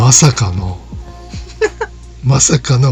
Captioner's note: laughs